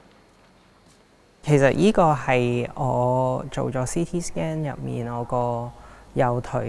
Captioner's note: Cantonese